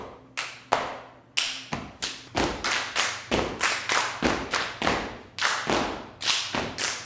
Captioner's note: feet thudding; hands smacking